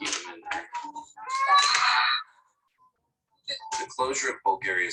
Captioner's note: screaming